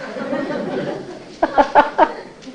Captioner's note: laughing